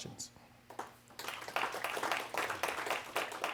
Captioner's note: applause